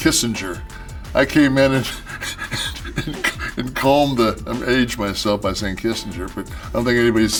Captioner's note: laugh